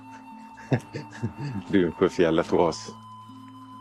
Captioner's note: laughs